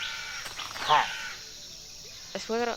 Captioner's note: pillager noise